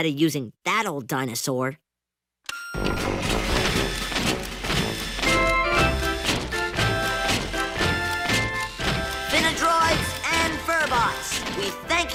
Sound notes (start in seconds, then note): 2.5 beeps; 2.8 whirring